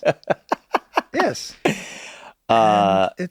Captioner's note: group laughing; group laughs